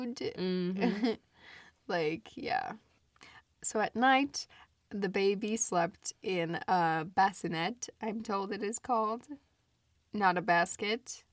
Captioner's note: laughs; laughs